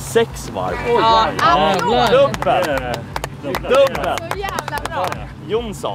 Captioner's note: applause